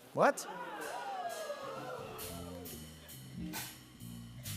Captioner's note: audience oohs